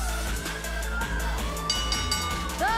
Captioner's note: bell ringing